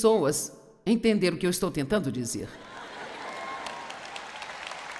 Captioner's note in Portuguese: audiência ri